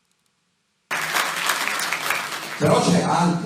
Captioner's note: applause